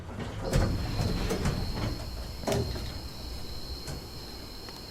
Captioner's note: doors clattering